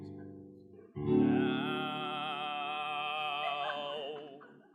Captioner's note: laughter